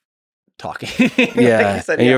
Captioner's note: Tim laughs